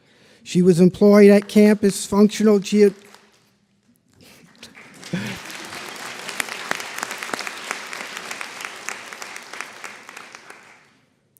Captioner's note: applause